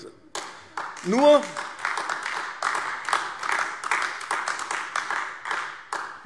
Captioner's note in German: Beifall AfD